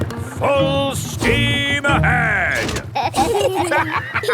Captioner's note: lever clangs; kids and captain dog laughing